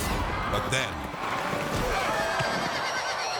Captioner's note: cowboys grunt; horses thud; horse neighs